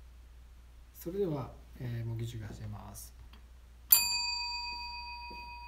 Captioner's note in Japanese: ベルの音